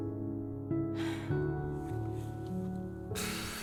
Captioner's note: sighs